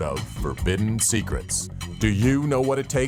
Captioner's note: lady whispering "secrets"